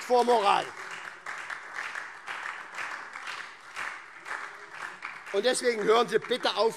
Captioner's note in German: Beifall SPD, Freie Demokraten und DIE LINKE - Unruhe